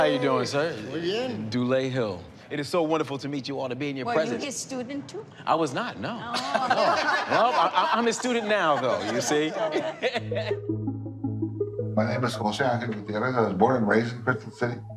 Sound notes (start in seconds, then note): 9.4 laughing